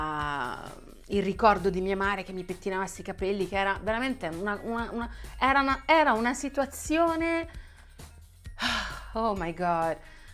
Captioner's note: deep sigh